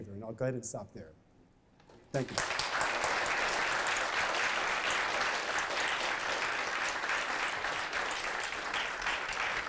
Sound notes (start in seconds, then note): 2.1 applause